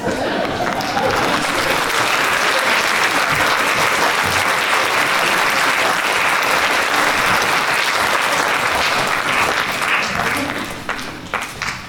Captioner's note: applause